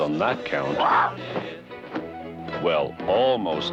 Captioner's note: bird squawks